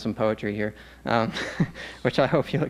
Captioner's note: laughs